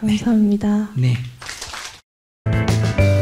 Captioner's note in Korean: 청중 박수